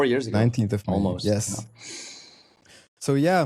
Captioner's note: inhales